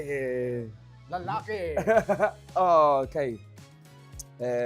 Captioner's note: chuckles